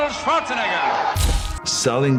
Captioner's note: crowd cheers